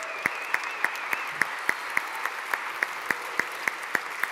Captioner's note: applause